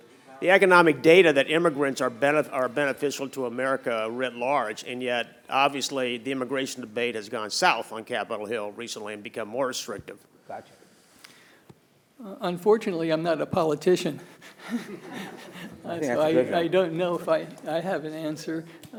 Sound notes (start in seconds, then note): 14.3 chuckles; 14.4 group chuckling